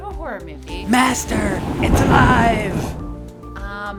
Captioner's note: thunder Clap; imitating Igor from Frankenstein